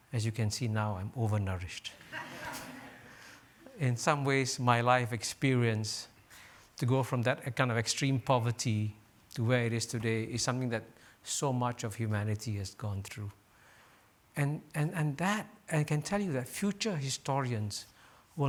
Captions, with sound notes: As you can see, now I'm over nourished. (audience laughs) In some ways my life experience, to go from that kind of extreme poverty to where it is today is something that so much of humanity has gone through. And that, I can tell you that future historians